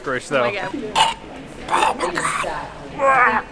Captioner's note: is choking